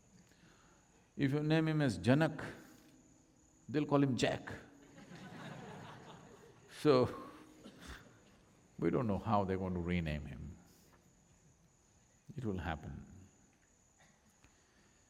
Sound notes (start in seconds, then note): 4.8 laughter